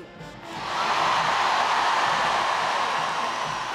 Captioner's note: audience cheering